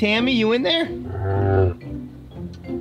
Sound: animal moans

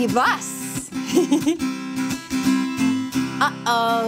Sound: chuckling

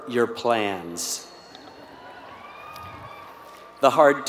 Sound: applause

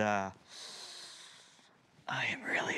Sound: inhale dramatically

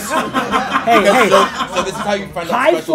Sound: laugh

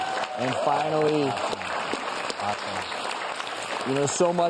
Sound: audience claps

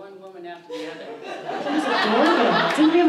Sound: audience laughs

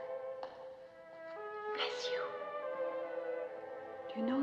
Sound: whispering

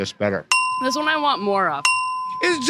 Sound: ding

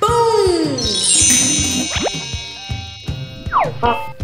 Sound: high-pitched chimes; boinging and squeaking

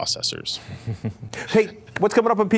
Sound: laugh

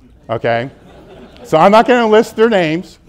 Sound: audience laughs

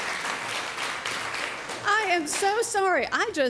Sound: applause

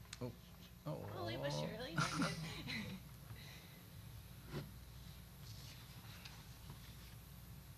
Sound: chuckling

